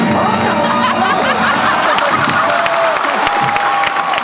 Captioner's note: laughter; applause